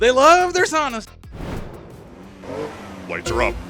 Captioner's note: hot wheels cars engines revving